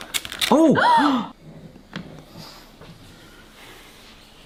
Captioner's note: gasps